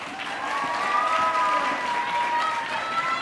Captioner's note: audience cheering; audience clapping